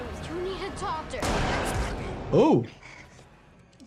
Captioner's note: gun firing